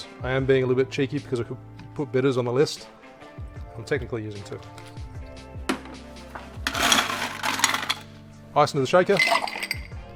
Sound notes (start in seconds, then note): 6.6 ice clanking